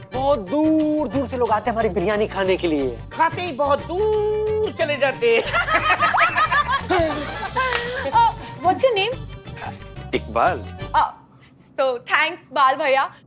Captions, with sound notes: People come from all over to taste my 'biryani'. And then they die all over after eating it. [laughing hysterically] What's your name? Iqbal. Thanks, Brother Bal.